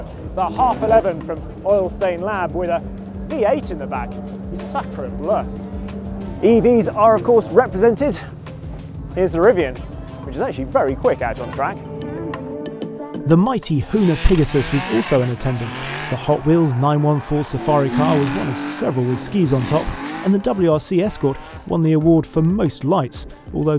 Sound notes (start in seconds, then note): 4.8 exclaims in French; 12.3 gentle music